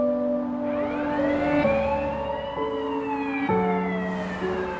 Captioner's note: smooth music; sirens blaring